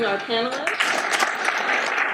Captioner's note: audience applauds